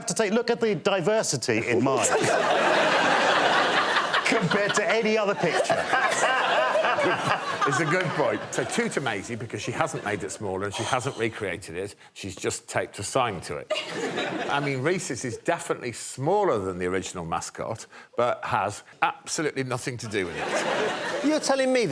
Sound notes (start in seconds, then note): 2.0 laughter